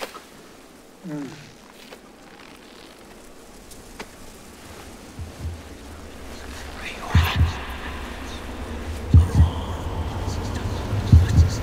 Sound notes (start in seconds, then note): 6.7 ghostly voices whispering; 7.0 heartbeat thudding; 9.3 ghostly Voice